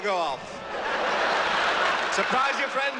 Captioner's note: all laughing